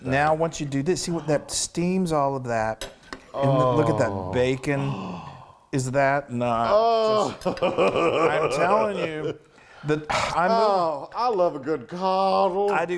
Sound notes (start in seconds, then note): 4.7 gasps; 7.1 laughs